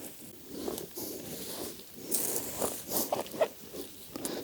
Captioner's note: soil rustling